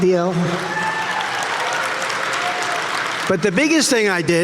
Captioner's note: audience cheering